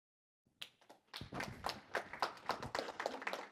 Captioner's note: applause